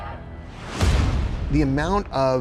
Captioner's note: truck thuds